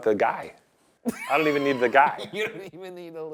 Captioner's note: Ryan laughs